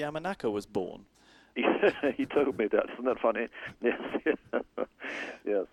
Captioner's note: laughs